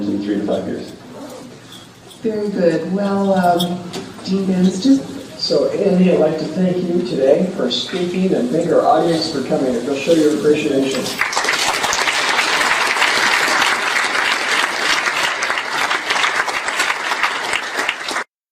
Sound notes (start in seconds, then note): 16.3 applause